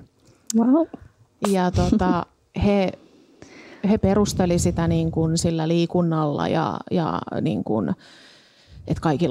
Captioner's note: laughs